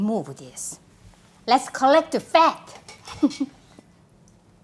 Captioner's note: laughs